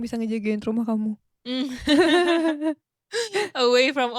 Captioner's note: both laughing